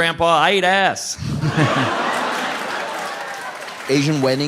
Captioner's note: audience applauding